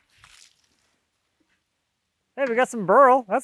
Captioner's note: water sloshing